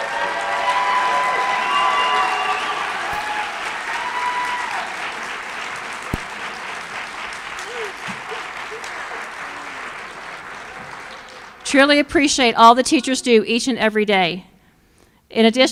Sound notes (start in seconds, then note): 4.8 applause